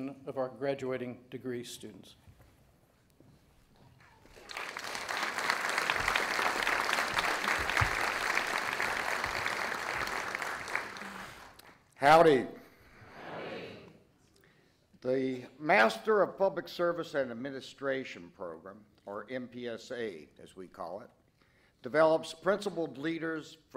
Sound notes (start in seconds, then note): 4.0 audience applauding